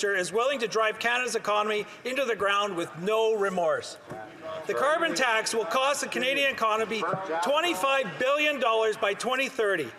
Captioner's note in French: voix de l'interprète